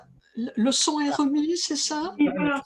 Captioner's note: speaking french